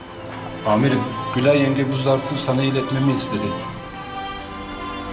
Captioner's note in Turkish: Sinan dış ses